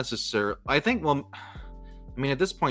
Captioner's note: sighs